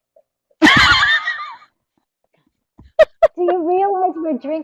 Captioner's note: laugh